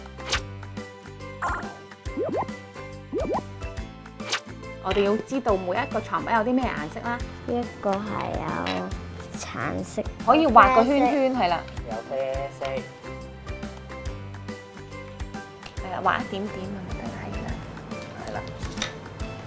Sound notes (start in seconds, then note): 0.1 swishing sound; 3.1 bubbling sound